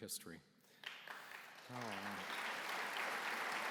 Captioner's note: applause